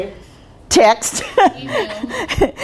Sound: laughing

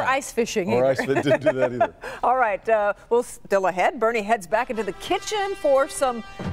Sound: laughter

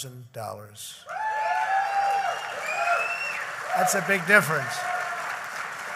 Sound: applause

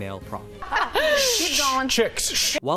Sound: laughter

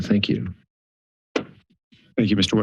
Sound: pause

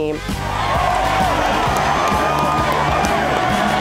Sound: cheering

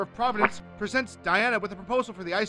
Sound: fart sound

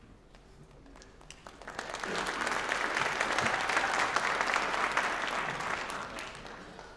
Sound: applause

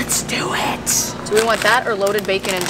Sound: whispering

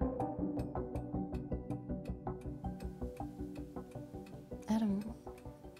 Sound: clock ticking in Adam's office

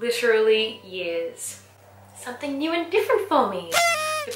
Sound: party horn

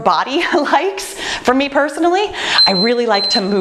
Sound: timer beeps

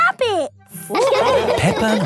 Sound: all laughing

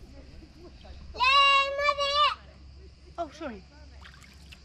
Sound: yells

